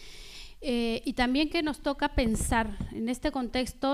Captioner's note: speaking spanish